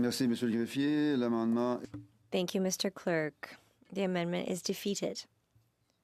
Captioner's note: speaking French